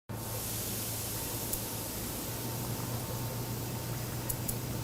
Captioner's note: nitrogen sizzling